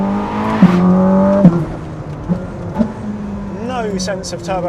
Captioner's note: engine rumbles